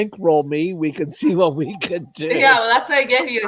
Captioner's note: laughter